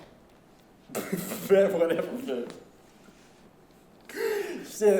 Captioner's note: laughing